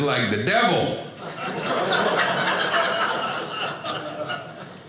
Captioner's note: audience laughing